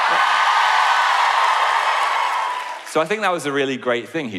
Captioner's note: cheering